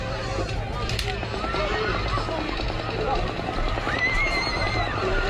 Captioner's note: murmuring, screaming, and gunfire